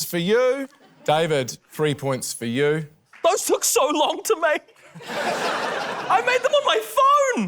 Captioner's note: laughter